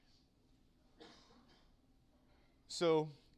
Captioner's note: cough